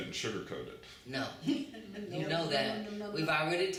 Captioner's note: laughter